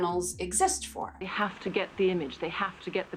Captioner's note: soundbite of archived recording